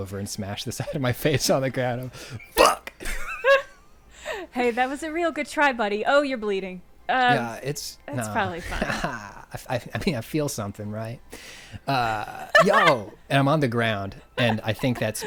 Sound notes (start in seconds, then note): 8.6 chuckling